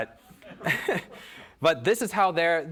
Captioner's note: audience laughing